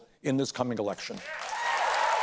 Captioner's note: cheers and applause